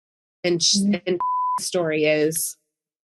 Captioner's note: beeping